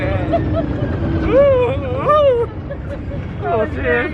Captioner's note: screaming